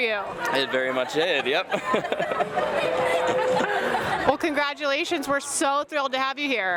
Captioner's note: giggles